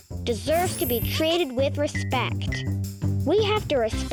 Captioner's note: planet laughing and clinking